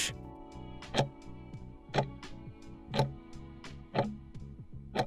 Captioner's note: timer ticking